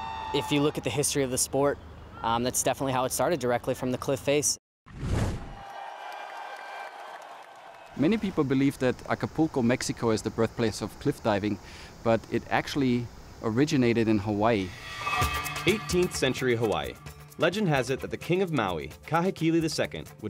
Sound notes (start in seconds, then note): 5.4 crowd cheering